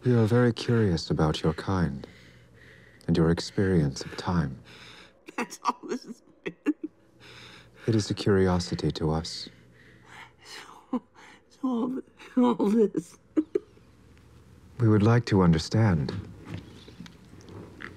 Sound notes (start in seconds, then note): 6.4 laughs; 12.9 chuckling